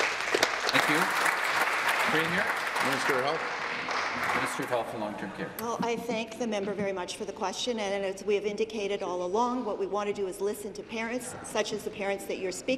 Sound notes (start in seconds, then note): 4.8 applause